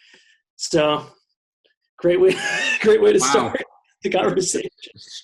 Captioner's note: laughs